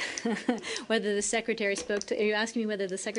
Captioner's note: laughter